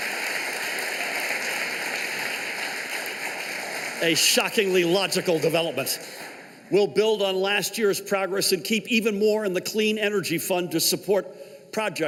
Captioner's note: cheers and applause